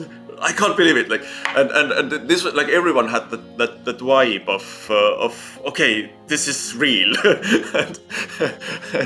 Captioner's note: laughs